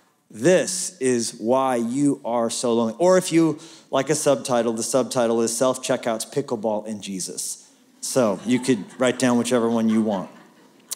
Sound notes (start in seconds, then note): 8.2 laughter